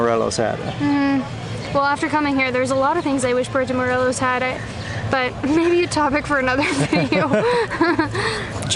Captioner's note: laughter